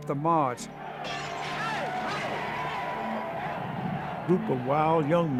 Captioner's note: shouting, glass breaking